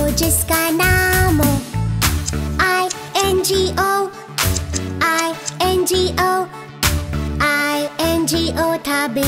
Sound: clap

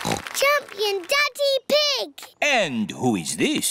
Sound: snorts

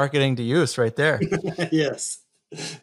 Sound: laughs

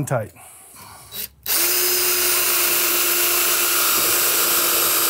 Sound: drill whirring

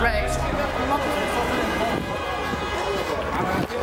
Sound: car horns blaring

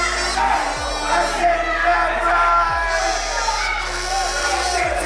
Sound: all Responses through Kazoo

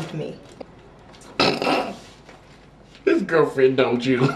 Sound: laughing

